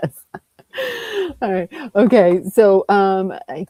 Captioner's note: laughs